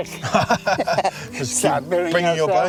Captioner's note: laughing